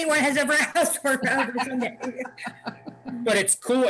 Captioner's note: laughing